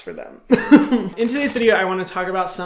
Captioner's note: Hyram laughs